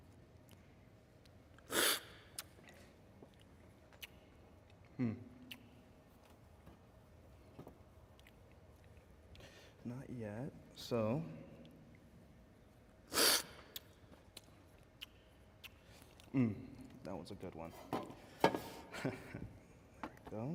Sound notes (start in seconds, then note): 7.0 slurping